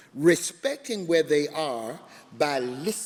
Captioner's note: none